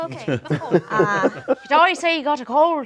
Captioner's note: group laughs